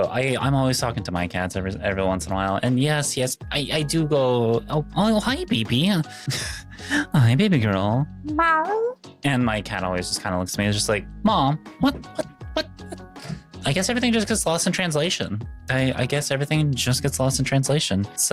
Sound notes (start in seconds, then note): 8.6 meow